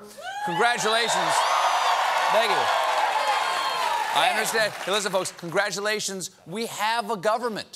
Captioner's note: cheers and applause